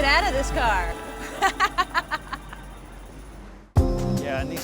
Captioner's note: laughs